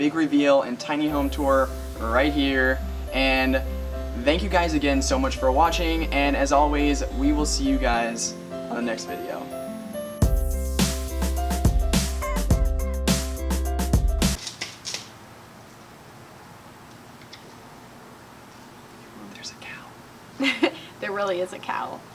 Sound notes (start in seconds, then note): 10.5 twigs snapping; 20.4 laughing